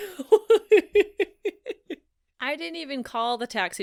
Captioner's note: storyteller laughs